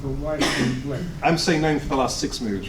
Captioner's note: sneeze drowns out audience member